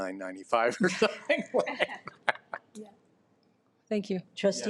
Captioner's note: chuckles